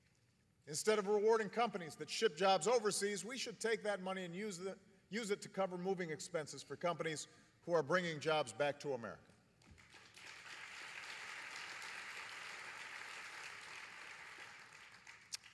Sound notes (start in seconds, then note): 12.5 applause